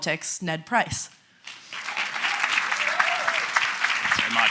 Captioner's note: cheering